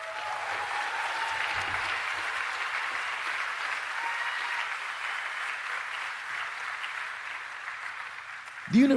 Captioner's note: applause